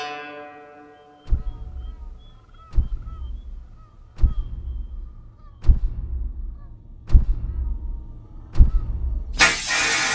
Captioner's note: penguin sounds